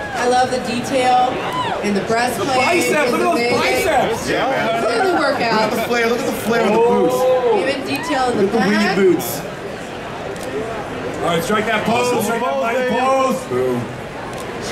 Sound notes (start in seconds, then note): 9.6 audience chattering